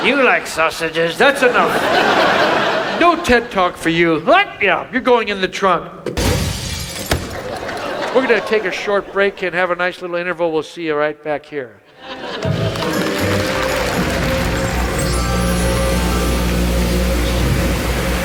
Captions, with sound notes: - You like sausages? - That's enough. (audience laughs) No TED Talk for you. - What? - Yeah, you're going in the trunk. (truck thudding) We're gonna take a short break and have a nice little interval. We'll see you right back here. (audience applauds) (dramatic music)